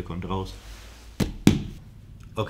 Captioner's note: tap x2